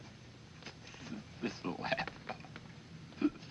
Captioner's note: pete mumbling